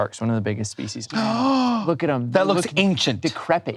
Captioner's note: gasps